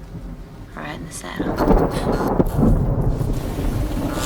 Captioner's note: thunder & lightning